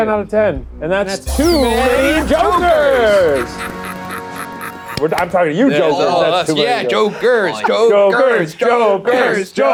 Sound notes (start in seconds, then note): 3.5 Joker laughs